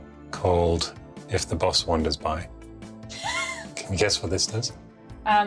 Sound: laughs

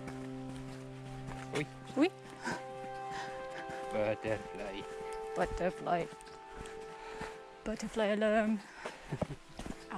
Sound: funny voice

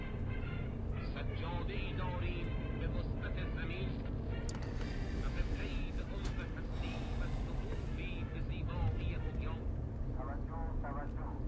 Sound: radio sound

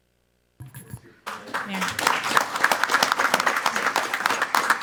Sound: clapping loudly

